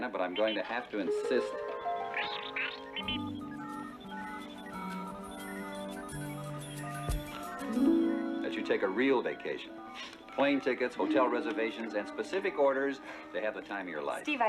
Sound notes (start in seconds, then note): none